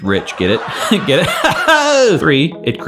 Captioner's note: laughs